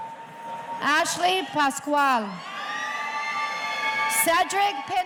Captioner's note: audience cheering